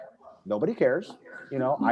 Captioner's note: laughs